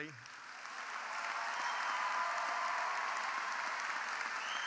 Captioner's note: audience applauding